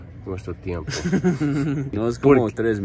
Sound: both laugh

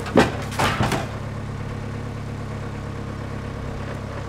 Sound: wood falls

